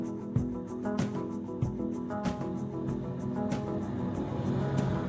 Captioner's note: engine purring